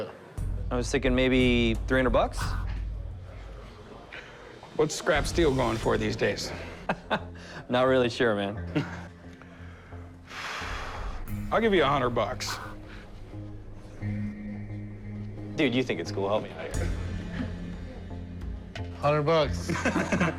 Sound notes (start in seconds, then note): 6.5 chuckles